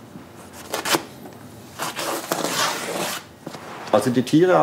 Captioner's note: tearing and cutting noises